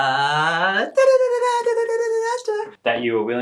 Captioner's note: imitates drums